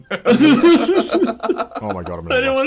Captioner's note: laughing